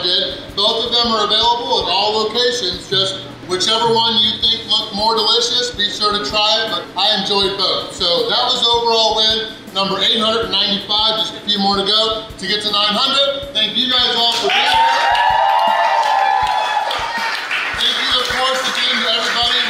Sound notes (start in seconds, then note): 14.3 crowd applauds